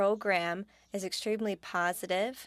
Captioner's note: speaking French